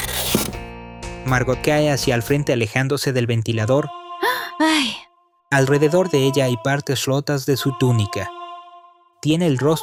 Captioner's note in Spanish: suspiro